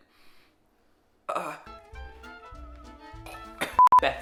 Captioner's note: gags